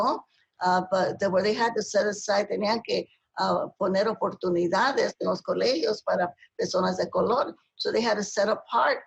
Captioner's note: speaking spanish; speaking spanish